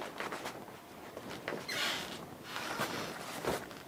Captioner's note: creaking of the floorboard